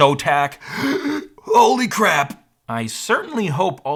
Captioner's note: deep inhale